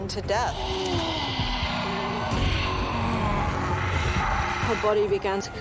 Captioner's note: sneers